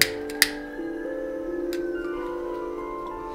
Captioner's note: clicking